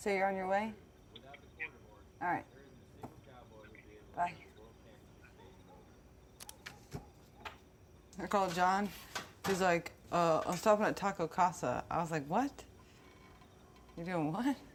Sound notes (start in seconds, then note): none